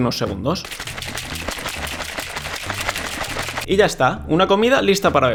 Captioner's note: sound of shaking the smoothie